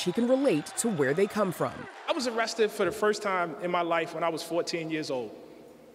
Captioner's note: applause